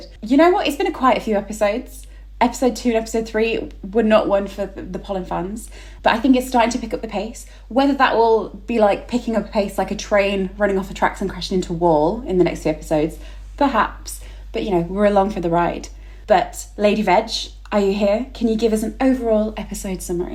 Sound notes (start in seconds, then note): none